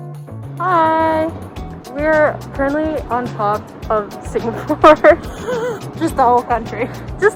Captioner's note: haha